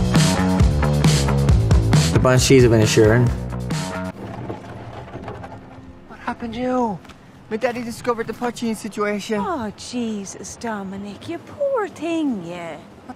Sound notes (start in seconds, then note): 0.0 upbeat instrumental music; 4.3 cart rumbling